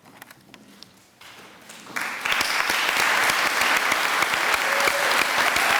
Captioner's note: applause